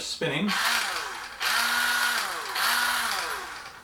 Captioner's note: sharpener noise